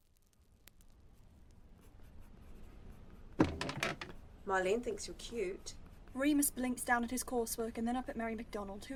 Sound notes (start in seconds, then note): 3.4 seat shifts